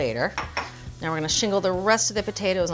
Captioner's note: bowl buzzing